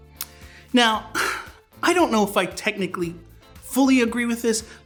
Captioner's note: sighs